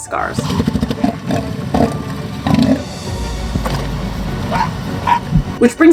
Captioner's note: background music; southern elephant seals vocalizing